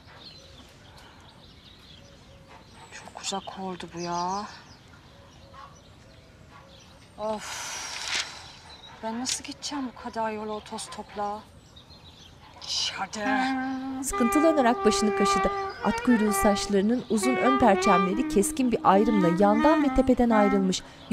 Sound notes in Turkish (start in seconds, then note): 12.4 Almanca konuşma